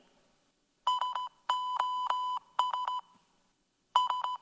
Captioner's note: tone beeping